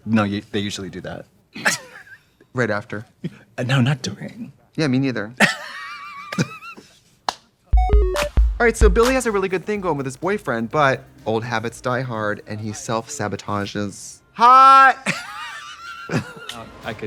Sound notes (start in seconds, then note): 1.6 both laugh; 5.5 Katya wheeze-laughs; 7.8 musical flourish; 15.0 Katya laughs